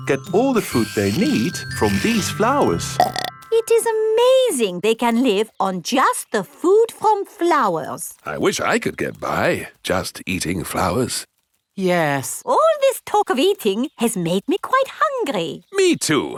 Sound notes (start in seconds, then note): 3.0 burps